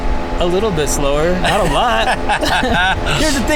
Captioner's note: laughs